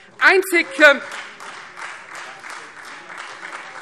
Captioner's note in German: Beifall Freie Demokrate